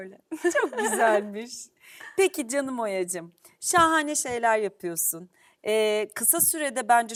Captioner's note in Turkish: kahkaha